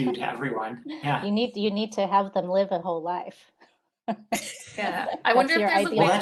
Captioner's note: laughing